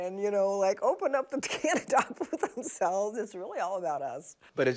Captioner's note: laughs